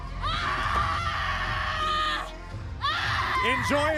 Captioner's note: Bayley screaming